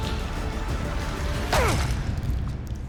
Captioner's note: grunt